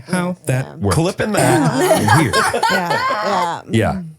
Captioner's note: all laughing